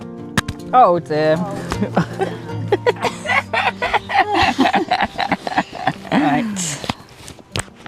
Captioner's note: giggles